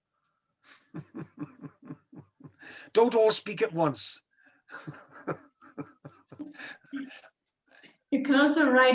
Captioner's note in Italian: Risata